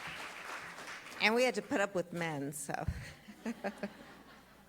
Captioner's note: applause